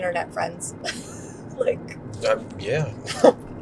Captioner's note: laughs